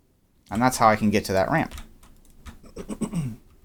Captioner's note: clears throat